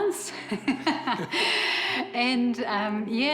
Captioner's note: chuckles; laughs